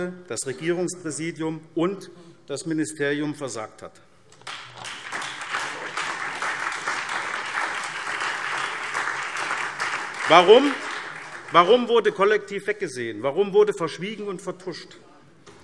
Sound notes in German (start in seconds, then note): 4.4 Beifall SPD, Freie Demokraten und DIE LINKE